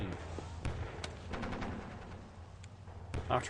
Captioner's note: sound of shells exploding and gunfire